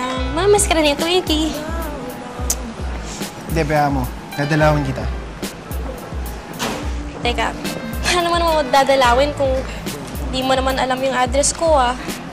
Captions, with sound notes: Twinky will miss you. [Julius clicks tongue] Don't worry. I'll visit you. Hang on. How will you visit me when you don't know my address.